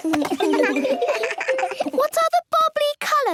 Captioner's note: giggles